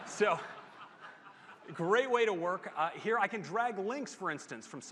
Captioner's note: laughter